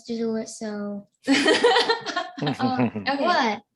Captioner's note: laughing